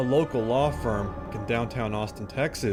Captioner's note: voiceover